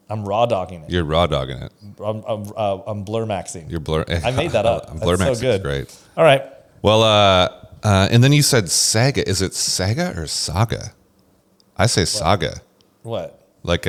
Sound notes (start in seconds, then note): 3.6 laughs